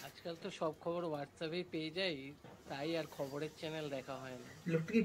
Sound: landlord speaking in the background

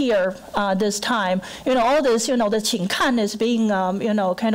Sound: foreign language

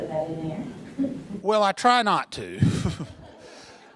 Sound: chuckle

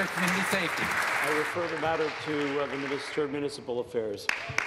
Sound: applause

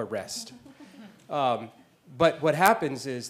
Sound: laugh

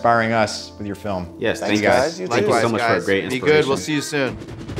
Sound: everyone talks

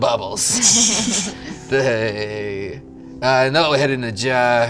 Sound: all laugh

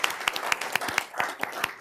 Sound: applause

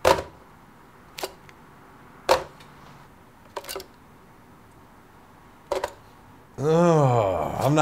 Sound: plastic banging

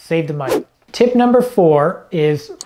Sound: air whooshing

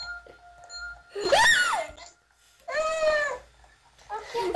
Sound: screams

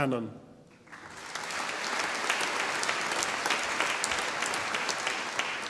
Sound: audience applauding

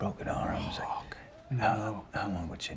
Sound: whispers

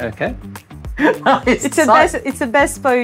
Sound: laughs

